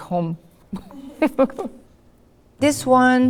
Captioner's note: laughs